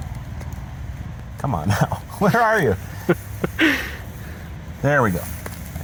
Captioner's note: cameraman laughing